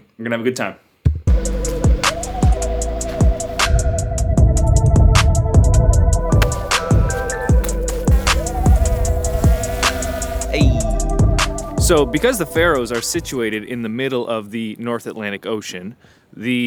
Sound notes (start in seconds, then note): 1.2 upbeat hip hop; 8.6 drone buzzing